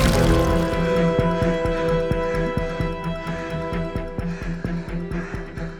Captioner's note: blood splattering; dramatic music; Sinclair gasping; Teplov gasping; dramatic music